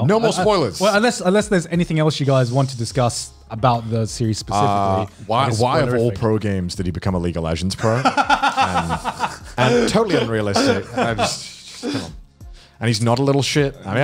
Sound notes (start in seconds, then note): 7.8 laughs; 8.5 murmurs